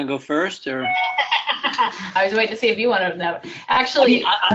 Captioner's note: laughter